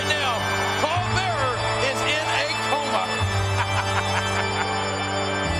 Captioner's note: laugh